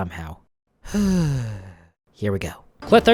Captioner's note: breathes